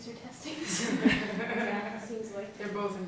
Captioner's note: laughter